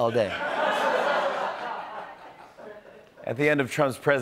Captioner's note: laughter